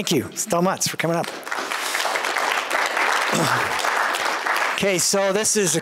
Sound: applause

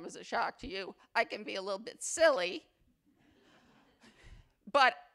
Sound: attendees laugh

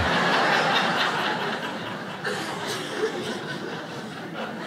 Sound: audience laughs

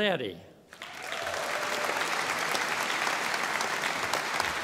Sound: audience applauding

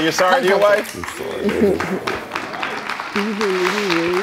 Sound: audience clapping

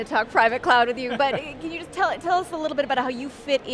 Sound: laughs

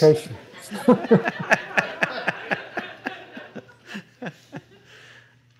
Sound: laughter

